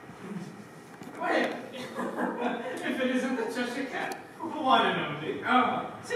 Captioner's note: laughs